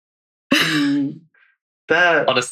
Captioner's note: laughing